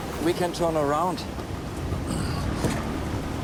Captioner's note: clears throat